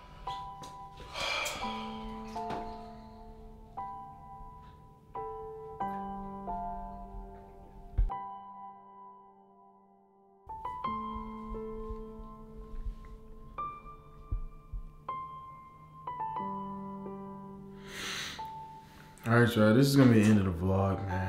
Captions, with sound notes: *blows breath* all right y'all it's gonna be the end of this vlog.